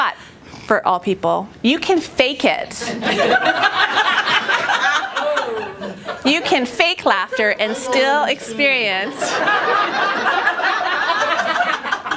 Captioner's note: laughter